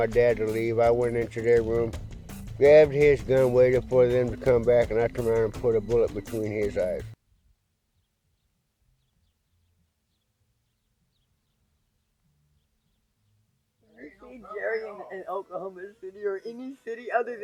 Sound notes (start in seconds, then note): 8.8 birds chirping